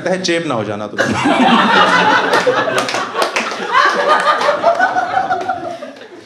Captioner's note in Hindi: हँसना